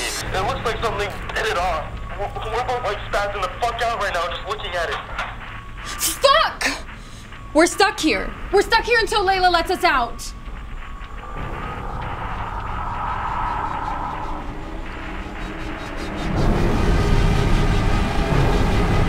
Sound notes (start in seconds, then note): 11.2 growling; 16.2 dramatic music